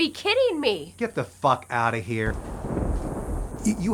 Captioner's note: thunder rumbles